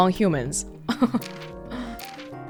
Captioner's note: chuckles